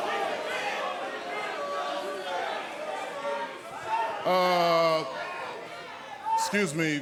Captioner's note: cheers & boos